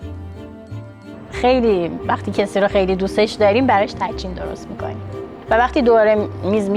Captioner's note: speaking in foreign language